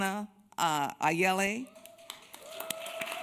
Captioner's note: applause, someone in the crowd yells "hana!"